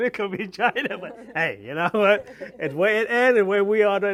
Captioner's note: all laugh